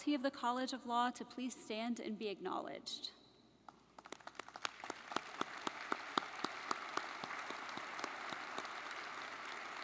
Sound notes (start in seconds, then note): 3.7 audience clapping